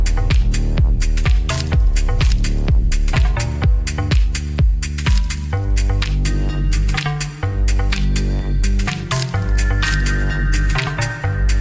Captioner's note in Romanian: Aplauze